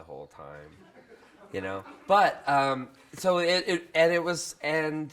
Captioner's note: crowd laughs